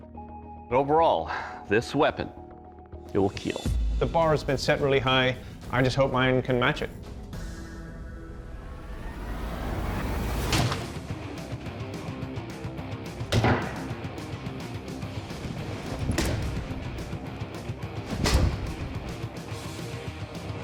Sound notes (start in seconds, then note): 10.0 chopping sound